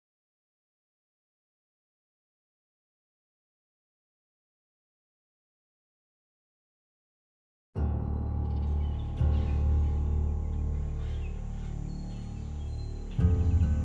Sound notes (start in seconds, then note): 8.0 birds chirping